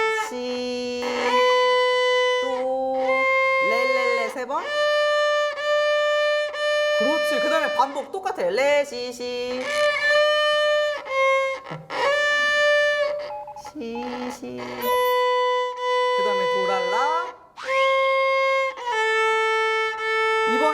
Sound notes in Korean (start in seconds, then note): 9.5 삐그덕